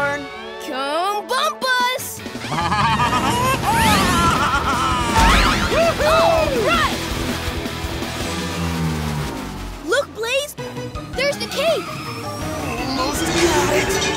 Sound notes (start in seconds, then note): 2.4 laughing; 4.9 cheering